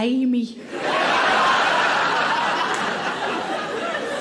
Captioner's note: audience laughing